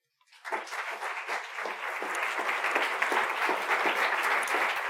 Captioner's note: audience applauding